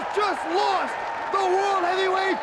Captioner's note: audience applauds and cheers